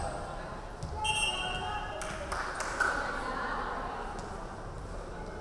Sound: referee whistling

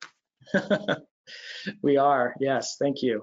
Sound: laughs

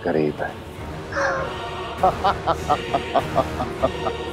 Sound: evil laugh

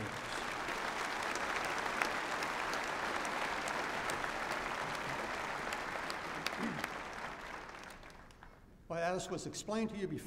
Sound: applause

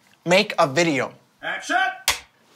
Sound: voice yells

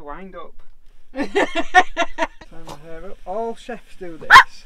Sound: laughter

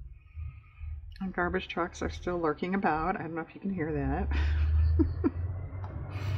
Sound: laughs

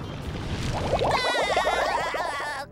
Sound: laughing

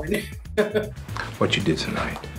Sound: laughs; Carla laughs

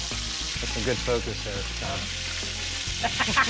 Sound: laughing

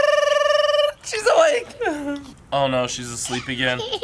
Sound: laughs; giggling

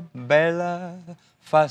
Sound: foreign language

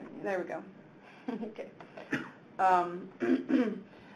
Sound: chuckles

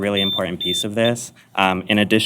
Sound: beep

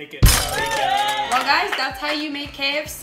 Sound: cheers

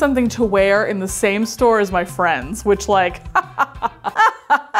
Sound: laughs

